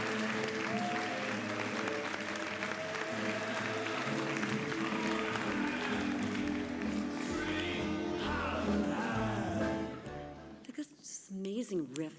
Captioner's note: applause